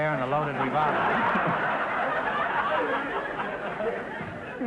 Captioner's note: audience laughter